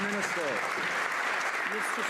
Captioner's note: some Applause